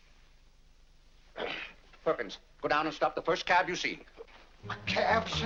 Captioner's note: grumbles